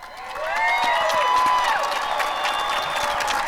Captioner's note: cheering and applause